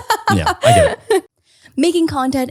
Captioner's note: laughing